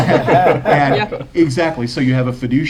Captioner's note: laughter